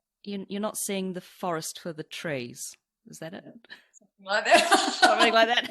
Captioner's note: laughs